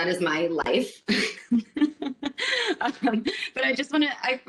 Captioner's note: laughter